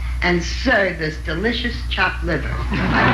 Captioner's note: audience laughing